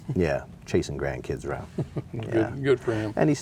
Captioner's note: laughing